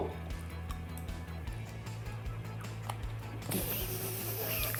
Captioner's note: crunch!